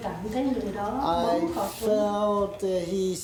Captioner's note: speaking Vietnamese